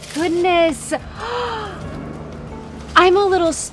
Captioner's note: Jillian gasping